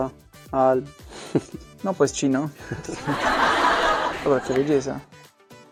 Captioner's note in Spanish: Risas